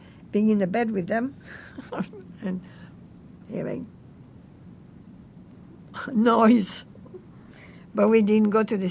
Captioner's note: laughing